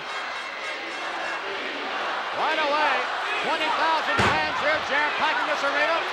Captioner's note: applause